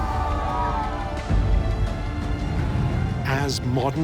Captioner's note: cheering